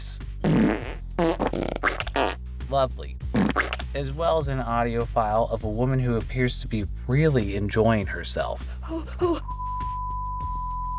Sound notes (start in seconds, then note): 0.4 fart sounds; 3.3 fart sound; 8.7 moan